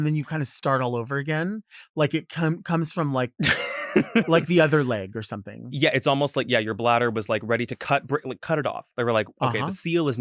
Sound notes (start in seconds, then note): 3.3 laughs